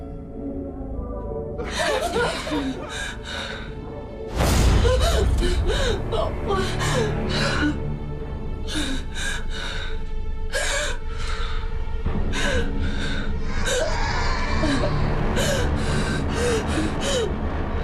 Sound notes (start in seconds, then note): 1.6 laughter